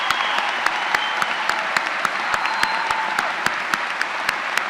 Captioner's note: applause